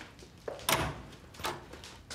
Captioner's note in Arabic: يفتح الباب